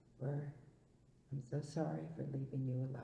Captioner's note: none